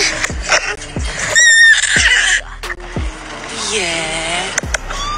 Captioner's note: baby cooing